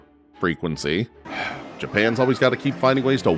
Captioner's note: exhales sharply